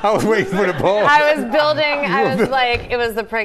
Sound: laughter

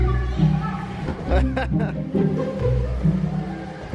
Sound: laughing

